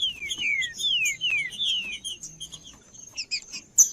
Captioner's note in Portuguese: trinca ferro cantando